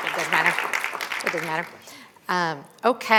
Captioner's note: applause